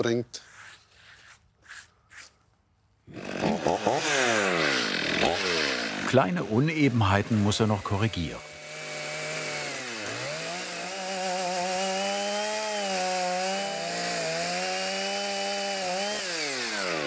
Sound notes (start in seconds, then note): 11.0 chainsaw noise